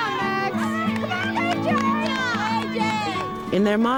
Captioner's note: kids cheer and clap